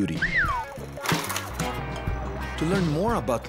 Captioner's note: whistling